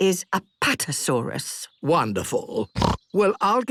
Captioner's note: snorts